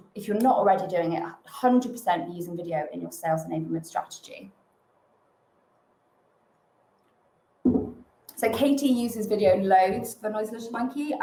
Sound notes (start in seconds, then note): 7.7 glass taps